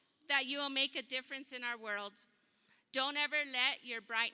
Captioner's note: none